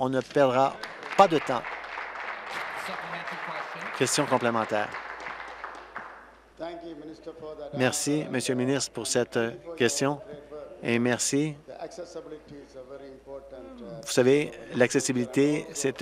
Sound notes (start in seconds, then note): 5.8 applause